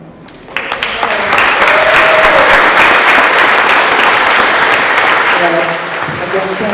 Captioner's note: applause